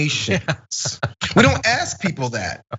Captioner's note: laugh